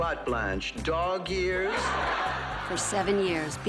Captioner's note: laughs